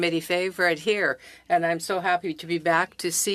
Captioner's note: speaking French